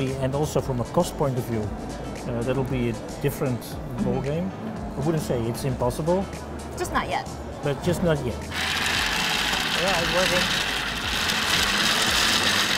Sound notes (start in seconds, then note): 8.5 rattling